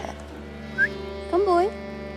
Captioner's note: whistling